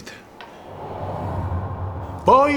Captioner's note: gush of wind